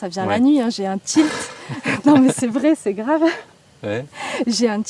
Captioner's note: laughs